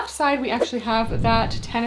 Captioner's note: screen whooshing